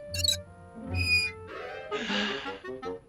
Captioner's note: sigh